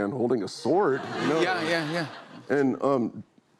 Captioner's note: laughter